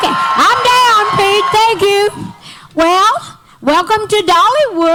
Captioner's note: audience Erupts with Applause